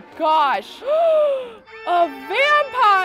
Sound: gasps

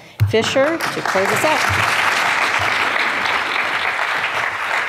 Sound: audience applauds

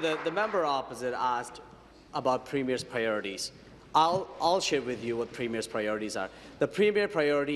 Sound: applause

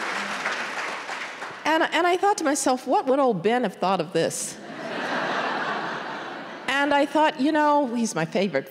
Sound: applause

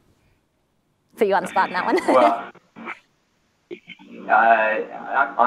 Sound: laughs

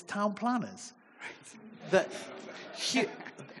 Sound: audience chuckling

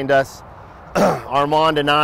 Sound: clears Throat

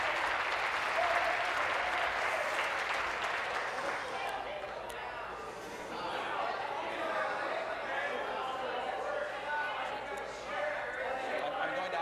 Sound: some Applause

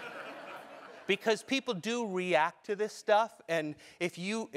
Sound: laugh

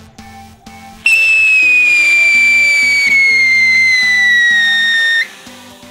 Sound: whistling sound

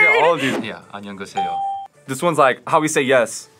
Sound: bell rings

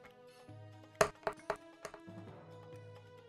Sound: dice thudding; intense music

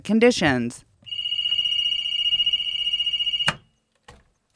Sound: ringing

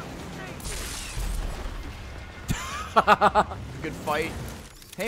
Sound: laughs

